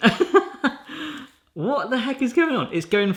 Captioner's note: laughs